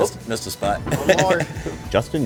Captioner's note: laughs